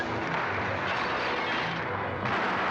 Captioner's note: dramatic music; gunfire; glass shattering; dramatic music; gunfire